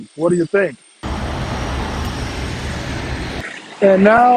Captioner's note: traffic whizzing